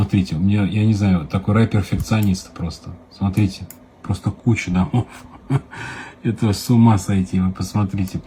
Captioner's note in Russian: смех